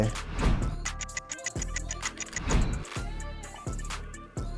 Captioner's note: clock ticks